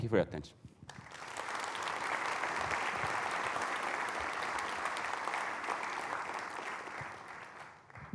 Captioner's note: applause